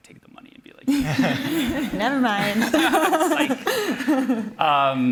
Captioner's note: laughter